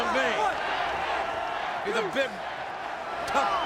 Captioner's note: applause